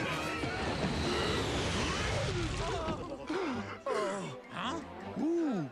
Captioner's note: whoosh